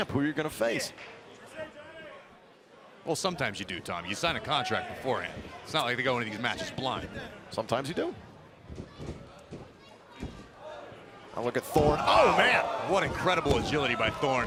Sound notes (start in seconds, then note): 9.7 crowd chatter